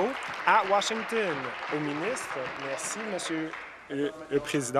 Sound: applause

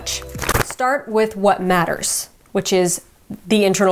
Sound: paper rustling

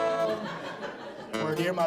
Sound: audience laughs

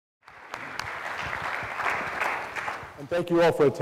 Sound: audience applause

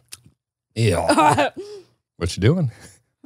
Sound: chews; laughs

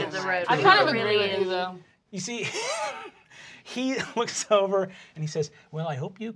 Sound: laughs

